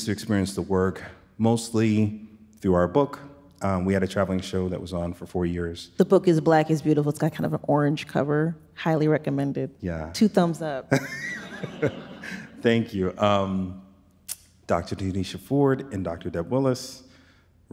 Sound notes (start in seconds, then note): 10.9 chuckles; 11.0 audience laughs